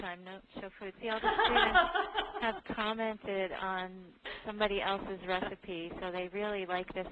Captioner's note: laughter